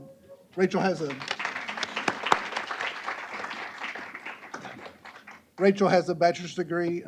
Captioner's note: applause